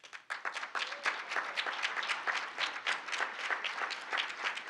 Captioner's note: audience applauding